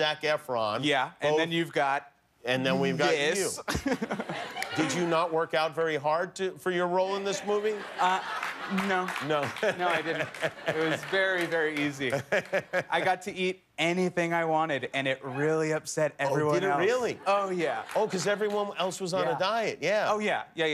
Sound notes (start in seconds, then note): 3.6 laughter; 12.0 laughter